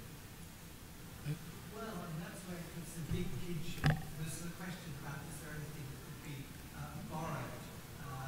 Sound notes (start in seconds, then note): 1.6 man speaking off-microphone